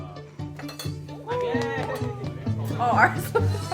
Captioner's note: clapping